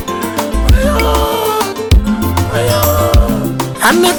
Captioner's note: mourning in the background